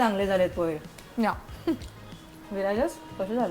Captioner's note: chuckles